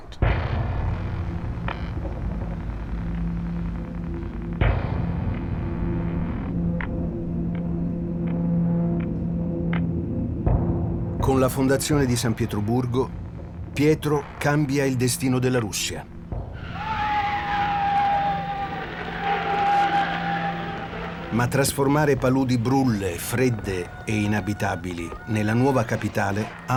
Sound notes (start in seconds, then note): 1.4 dramatic music; 16.6 whistling wind